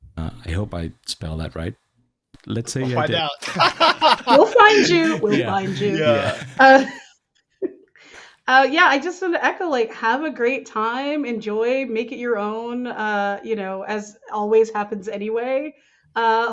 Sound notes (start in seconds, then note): 2.8 all laughing